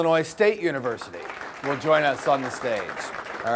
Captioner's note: audience applause